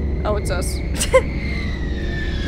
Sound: laughs

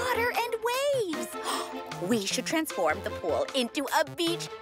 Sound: gasping

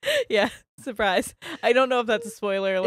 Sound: both laughing

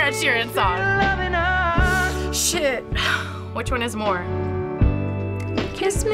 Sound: sighs; inhales sharply

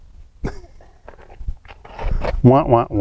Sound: laughs

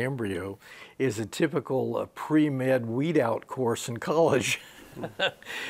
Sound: laughs

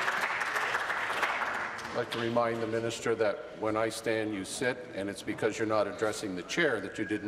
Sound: applause

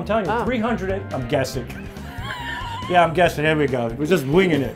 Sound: sarcastic

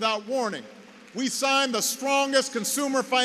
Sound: applause

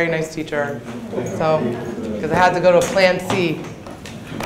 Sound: audience murmuring

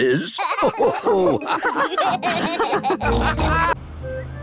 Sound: all laugh

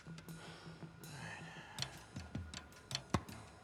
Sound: exhaling; ball bouncing

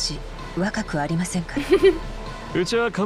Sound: chuckles

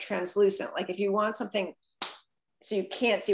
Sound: claps

